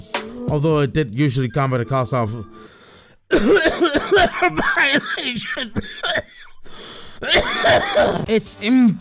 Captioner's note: cough